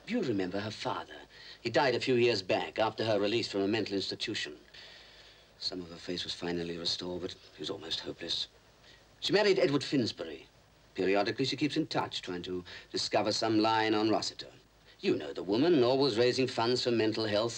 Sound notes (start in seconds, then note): none